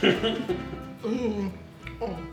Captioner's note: laughing